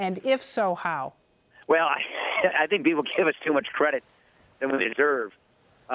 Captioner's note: laughing